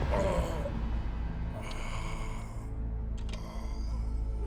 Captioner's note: groans